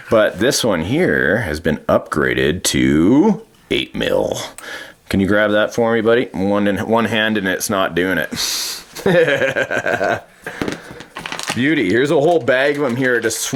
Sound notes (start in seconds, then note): 8.9 laughing